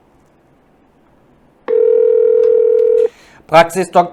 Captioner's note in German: Telefon Ringen